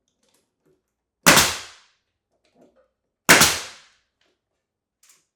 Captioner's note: nail gun popping